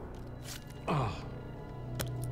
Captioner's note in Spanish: Gemidos